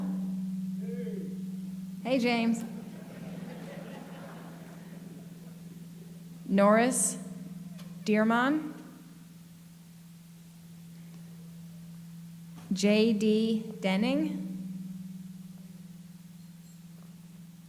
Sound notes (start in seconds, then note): 2.6 laughter